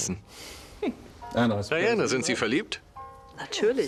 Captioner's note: Diana laughs; voiceover